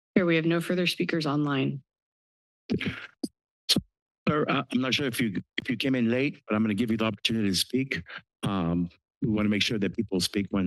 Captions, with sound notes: - Chair, we have no further speakers online. [microphne noise] - Sir, I'm not sure if you if you came in late, but I'm going to give you the opportunity to speak. We want to make sure that people speak